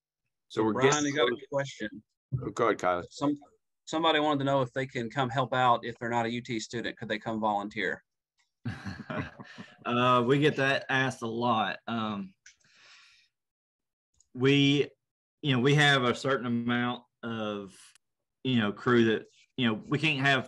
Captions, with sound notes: >> So Brian there is a question. >> Go ahead guys. >> Somebody wanted to know if they can come help out if they're not a UT student, could they come volunteer? >> [LAUGH] We get that asked a lot, we have a certain amount of crew that we can't have 30 people come every day,